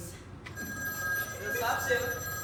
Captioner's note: phone rings